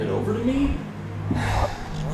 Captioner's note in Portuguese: NOUTH NOUTRE suspira